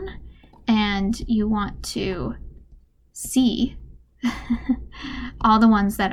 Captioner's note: laughs